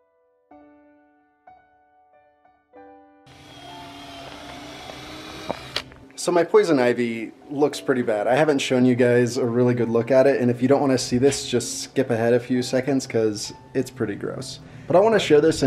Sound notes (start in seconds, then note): 1.2 light piano music; 3.2 drill grinding